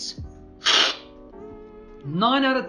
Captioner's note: slurping